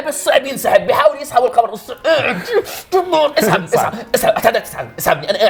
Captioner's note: grunts